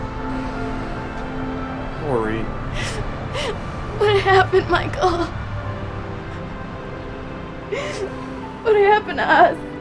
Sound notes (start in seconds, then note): 2.4 sobs